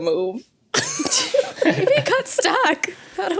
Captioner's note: guests giggling